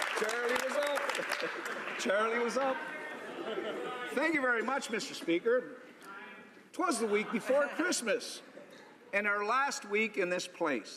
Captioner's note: cheering & Applause